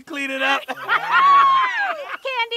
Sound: laughing

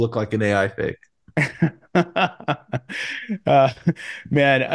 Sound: laughing

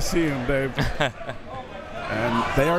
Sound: laughing

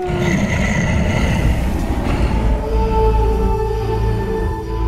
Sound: Baslilisk roars

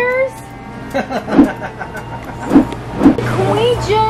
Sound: laughs

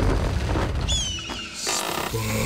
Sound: chirping

